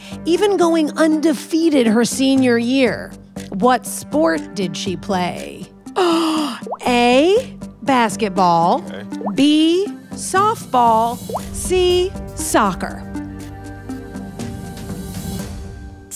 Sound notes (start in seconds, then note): 6.0 Allison gasps; 13.3 suspenseful music